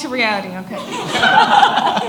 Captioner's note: audience laughs